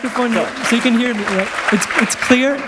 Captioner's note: applause